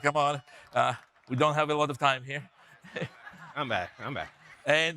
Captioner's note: laughs